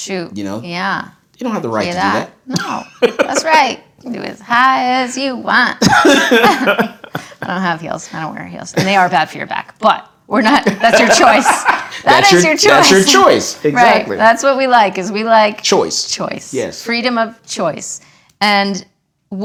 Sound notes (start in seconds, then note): 10.6 laughing